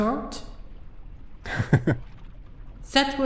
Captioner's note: Lukas laughs